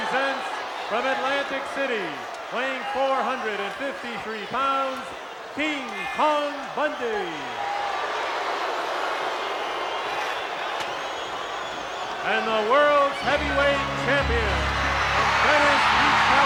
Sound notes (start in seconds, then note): 8.2 crowd boos